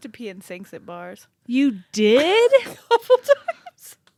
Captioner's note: snickers